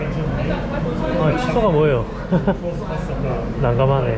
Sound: laughing

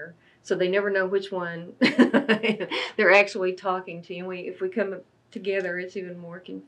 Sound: laughs

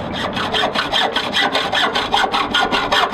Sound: sawing

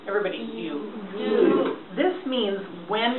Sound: voiceover

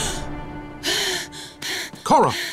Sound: gasps; panting

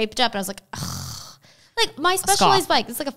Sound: scoffs

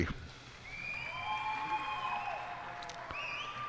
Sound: cheers and applause

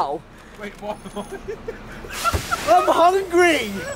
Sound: laughing

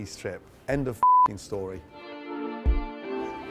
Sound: beep; upbeat music

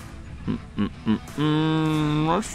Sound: humming

